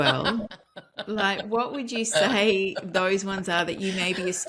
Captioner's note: laughs